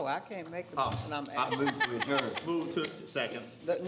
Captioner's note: laughing